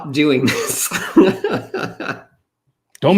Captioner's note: laughs